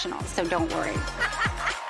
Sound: laughing

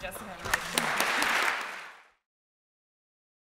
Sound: applause

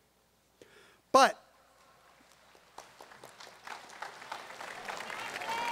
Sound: audience applauds

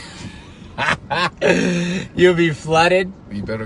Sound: laughing

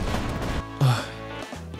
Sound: sigh

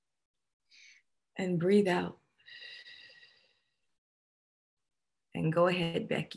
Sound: exhaling

